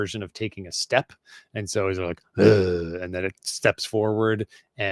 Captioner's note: grunts